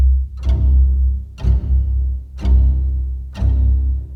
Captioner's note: clock ticks